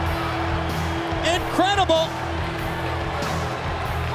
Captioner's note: bell ringing